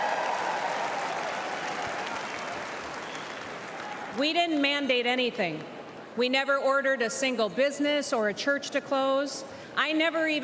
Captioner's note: cheers and applause